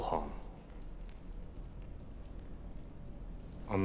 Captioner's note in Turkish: Ateş çıtırtısı sesleri